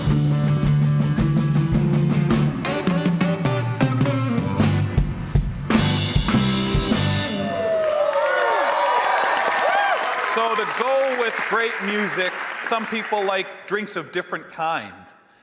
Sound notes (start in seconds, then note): 7.2 audience cheering; 7.3 audience applauding